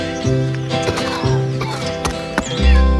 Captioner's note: cough